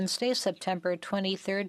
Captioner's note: speaking French